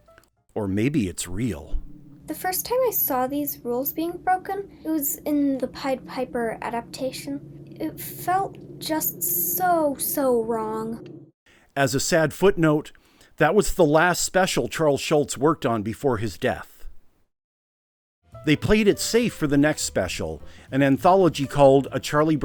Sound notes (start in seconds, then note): 0.2 ominous horror sounds; 4.3 horror sounds intensify; 4.3 horror sounds become unsettlingly loud